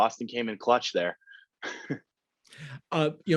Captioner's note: laughs